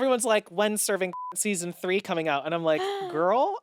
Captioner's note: beep